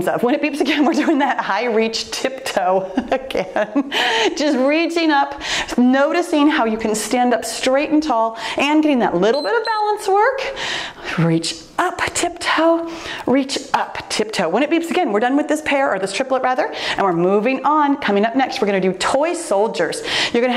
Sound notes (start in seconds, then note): 9.2 timer beeps